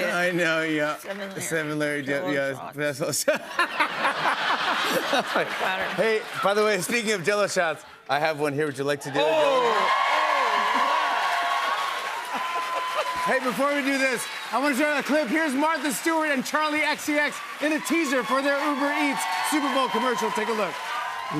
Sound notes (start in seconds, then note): 3.2 laughter; 10.5 cheers and applause